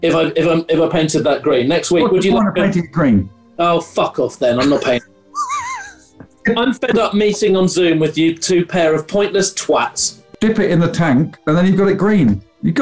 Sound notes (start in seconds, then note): 4.6 sniggering